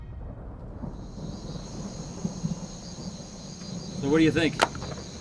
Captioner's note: thunder and jungle sounds